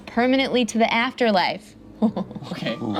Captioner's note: laughs